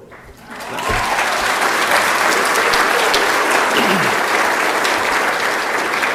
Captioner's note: applause